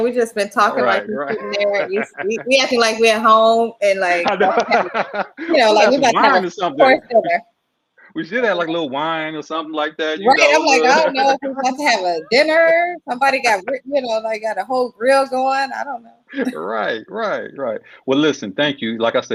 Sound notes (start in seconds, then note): 3.9 laughing